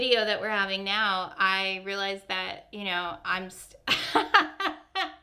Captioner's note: laughs